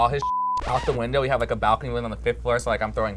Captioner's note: beep; record scratches